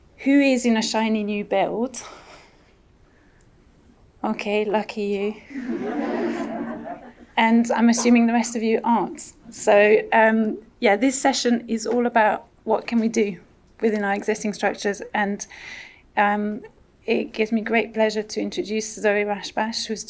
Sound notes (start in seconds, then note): 5.5 audience laughs